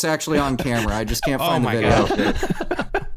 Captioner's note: laughter